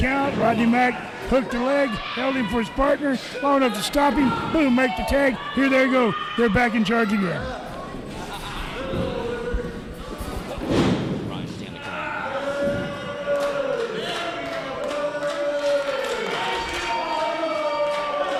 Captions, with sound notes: Rodney Mack hooked a leg. Held him for his partner long enough to stomp him. Boom, make the tag. Here they go. They're back in charge again. (crowd cheering)